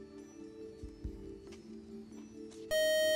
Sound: time-out buzzer

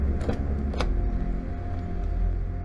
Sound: car door open

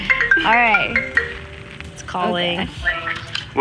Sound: phone rings

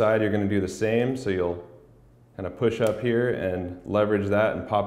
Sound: lens pops

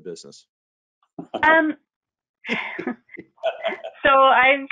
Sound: laughing

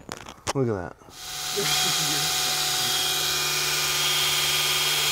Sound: drill humming

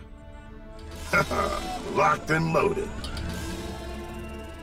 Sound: chuckles

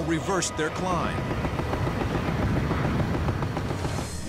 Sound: gunshots

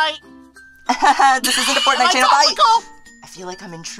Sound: laughter

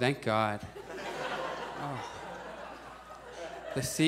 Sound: audience laughs

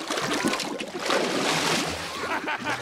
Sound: laughing

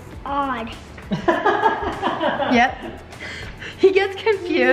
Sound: laughing

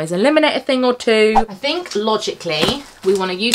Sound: screen whooshing

